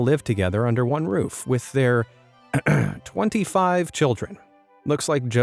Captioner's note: clears throat